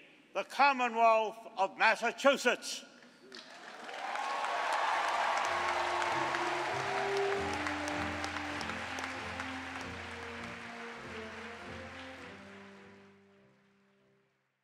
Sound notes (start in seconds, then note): 2.6 cheering and applause